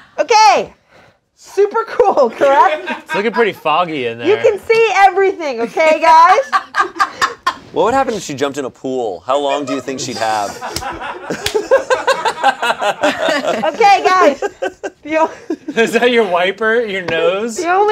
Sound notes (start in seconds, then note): 11.1 everyone laughs